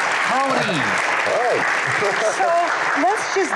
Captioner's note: applause